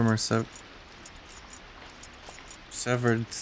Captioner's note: keys jingling